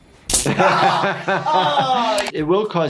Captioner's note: electric shock; laughs; Wee Man groans in pain